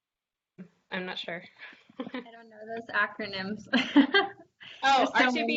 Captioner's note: laughs